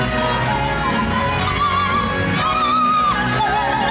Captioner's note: people vocalizing